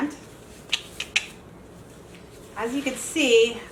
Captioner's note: tongue clicking